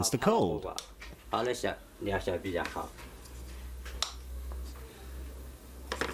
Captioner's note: speaking in foreign language